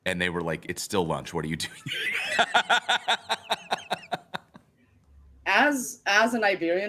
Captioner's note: laughs